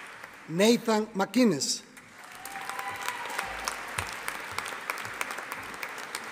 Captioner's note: audience applauding